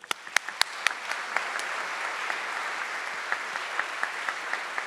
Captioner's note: audience clapping